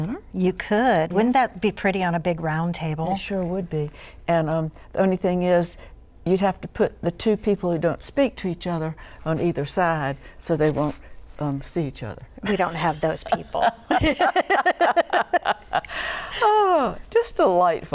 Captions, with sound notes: You could, wouldn't that be pretty on a big round table. It sure would be. And the only thing is you'd have to put the two people who don't speak to each other on either side, so they won't, see each other. We don't have those people. (laughter) Oh. Just delightful.